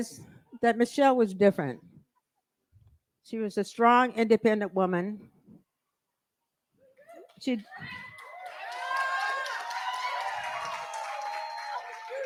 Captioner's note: cheering & applause